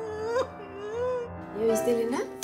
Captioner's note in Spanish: sollozos